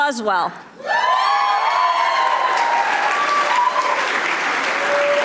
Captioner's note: audience applauding